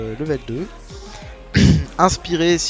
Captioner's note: cough